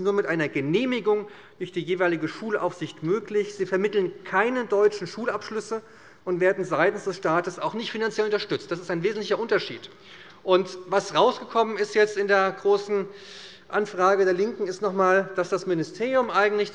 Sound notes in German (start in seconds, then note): none